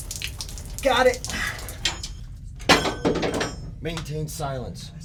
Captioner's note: wrench falls on floor